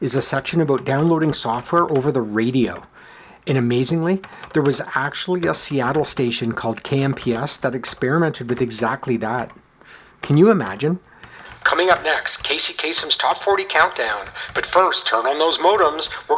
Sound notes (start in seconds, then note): 11.6 radio voice